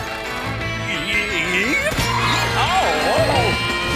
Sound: groaning

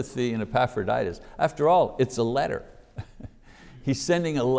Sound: chuckles

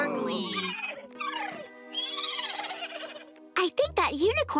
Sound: whinnying

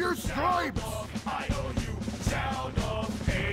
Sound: chanting

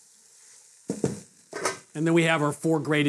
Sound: sizzling

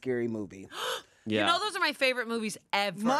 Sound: gasps

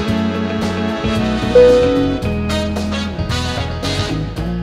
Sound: upbeat music; dinging

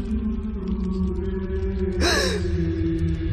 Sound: gasps

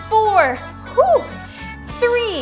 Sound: exhaling

